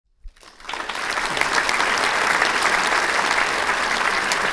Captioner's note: audience clapping